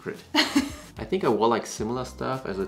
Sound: laughs

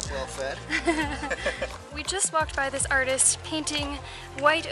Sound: laughter

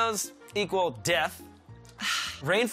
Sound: deep sigh

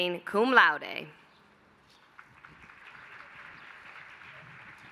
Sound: applause

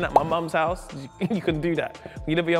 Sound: pop

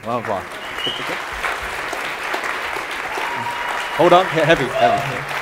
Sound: audience applauding

